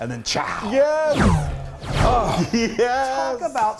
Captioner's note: clapping; claps